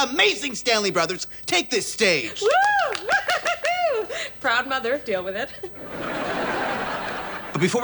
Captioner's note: clapping